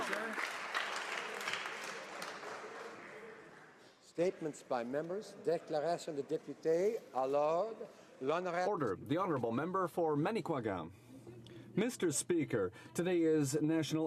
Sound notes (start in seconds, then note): 3.2 applause; 9.2 speaking French